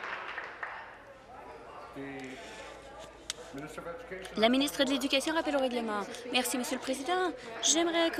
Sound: applause

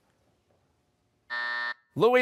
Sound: buzzer

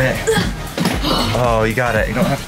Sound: grunts

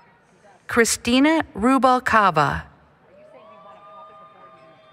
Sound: applause, Cheering

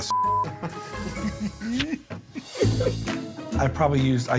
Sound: laughter

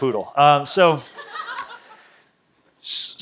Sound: laughter

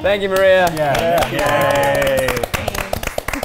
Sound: clapping

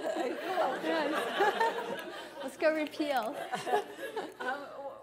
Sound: laughter

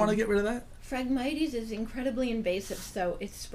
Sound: voiceover

